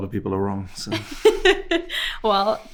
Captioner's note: host laughing